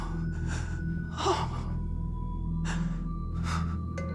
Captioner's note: gasping